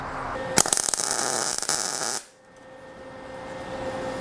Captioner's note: torch buzzing